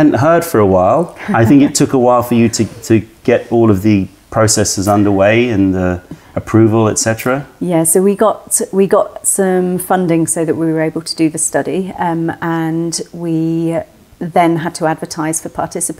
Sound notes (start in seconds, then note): 1.2 laughter